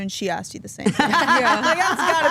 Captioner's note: Stephanie laughs